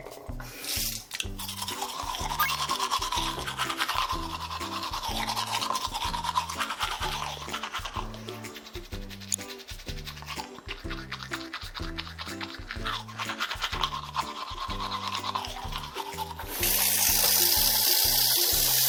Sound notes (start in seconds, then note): 2.4 brush brush